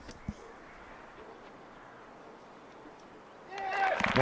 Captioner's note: applause